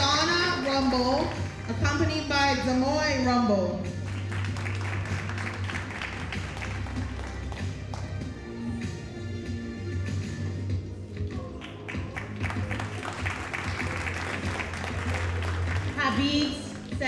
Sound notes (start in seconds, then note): 4.0 audience applauding; 11.2 audience applauding